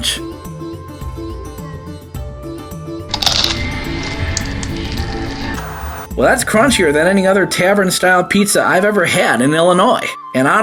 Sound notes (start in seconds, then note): 0.3 gentle instrumental music; 3.1 pizza crunches; 5.7 TV Static